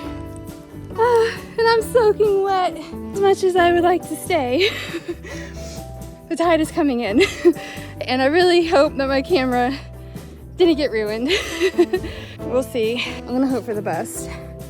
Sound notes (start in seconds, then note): 1.0 sigh